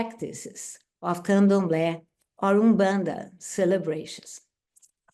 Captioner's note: speaks Portuguese